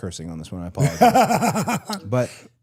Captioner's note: Dallas laughs